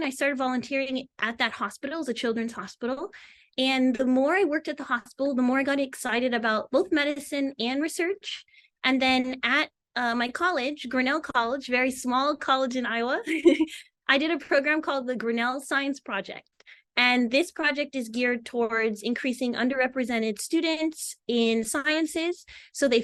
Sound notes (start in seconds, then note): 13.2 chuckles